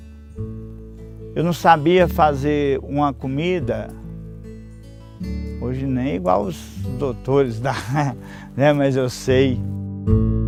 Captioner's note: laughs